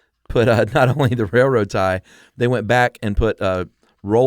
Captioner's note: laughs